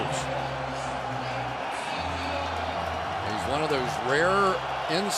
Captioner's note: pa announcement